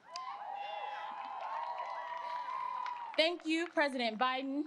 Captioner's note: applause